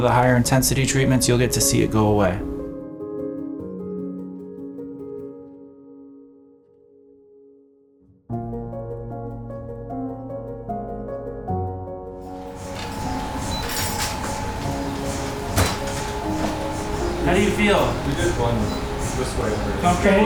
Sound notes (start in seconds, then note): 3.0 gentle piano music continues; 12.4 machine beeping; 12.4 machine whirring